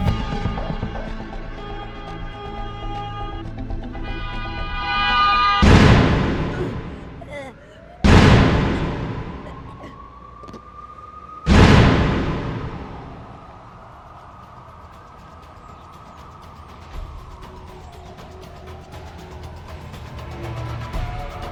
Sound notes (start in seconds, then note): 0.1 car horns honking; 6.0 tense music; 10.1 siren wailing; 18.9 tense music